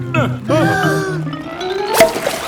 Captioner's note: breathing in